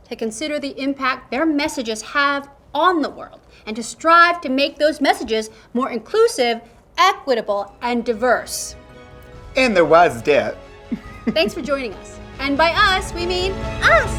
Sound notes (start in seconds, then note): 10.8 Peppermint laughing